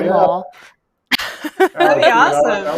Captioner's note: laughs